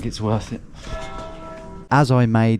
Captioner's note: bell tolling